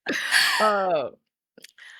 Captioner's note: laughter